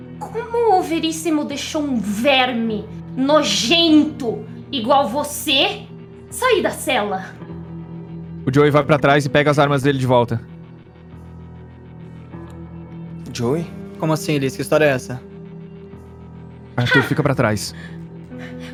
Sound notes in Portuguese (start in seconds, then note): 16.8 Liz: Hah!